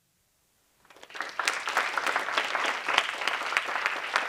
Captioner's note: applause